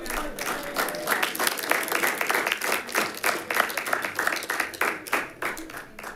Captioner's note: scattered applause rings